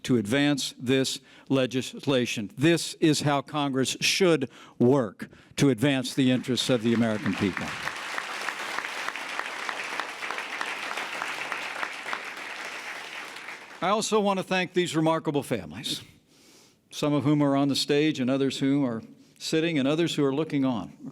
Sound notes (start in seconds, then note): 7.8 applause